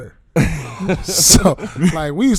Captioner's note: laughing